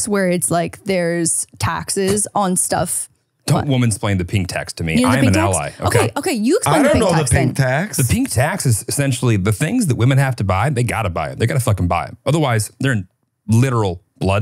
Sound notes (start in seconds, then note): 2.6 scoffs